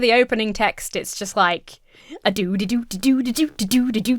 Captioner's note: Emma imitates upbeat tune